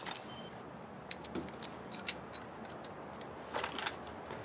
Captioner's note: metal clanging